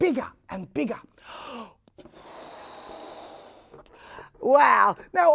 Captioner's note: air blowing sounds can be heard